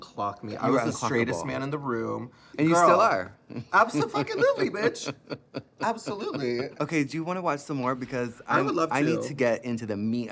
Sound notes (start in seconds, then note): 3.6 laughing